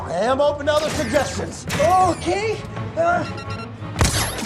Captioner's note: console beeping